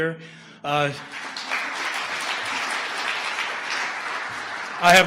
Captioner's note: audience applause